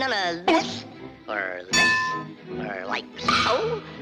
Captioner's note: elbow thuds; bell dings; foot thuds